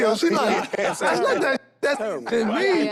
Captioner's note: group laughs